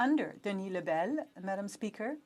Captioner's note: speaking French